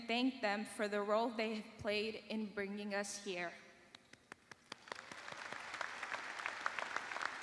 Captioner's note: applause